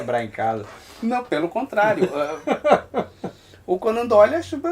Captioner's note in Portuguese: Riso